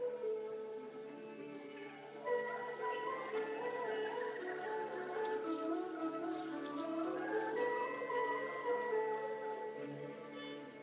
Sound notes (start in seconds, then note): 2.0 women's Voices Echoing Faintly; 2.5 birds Chirping